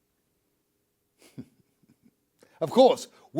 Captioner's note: chuckles